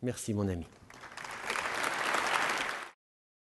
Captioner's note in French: Applaudissements